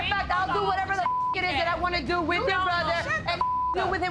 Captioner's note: beep